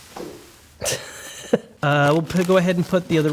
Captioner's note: giggling